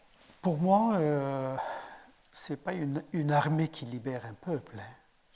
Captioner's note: speaking in French